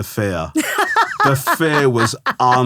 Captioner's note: laughing